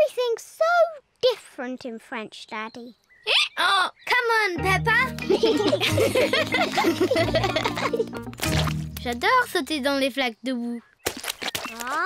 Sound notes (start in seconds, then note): 3.9 brays; 5.2 both giggle